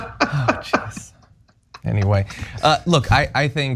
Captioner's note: laugh